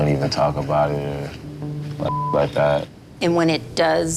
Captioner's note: beep